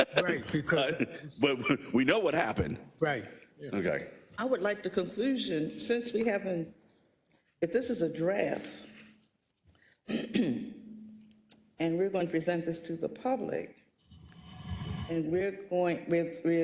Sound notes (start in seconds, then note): 0.0 laugh; 10.0 cough